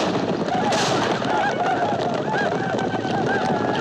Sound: whooping

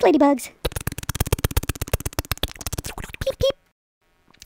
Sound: clicking

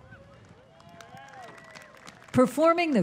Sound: scattered cheering and applause

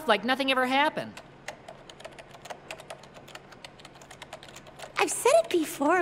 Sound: computer keys clicking

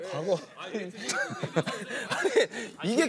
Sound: laughing

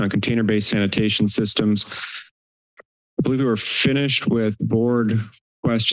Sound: inhales

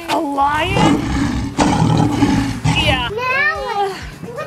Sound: lion roar

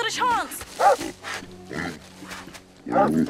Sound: animal grunting

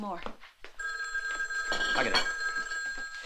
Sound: phone rings

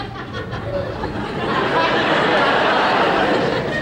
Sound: laughter

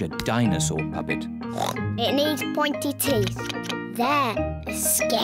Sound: oinks

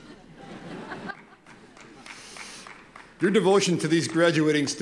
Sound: laughter

